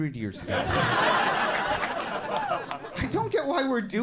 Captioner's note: audience laughing